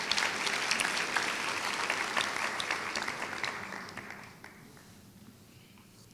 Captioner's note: applause